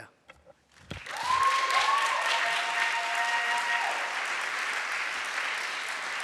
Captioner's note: audience cheering and applauding